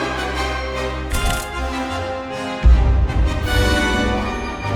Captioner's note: dramatic music; camera clicks